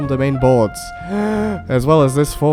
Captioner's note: takes deep breath